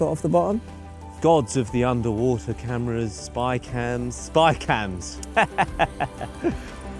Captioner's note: laughs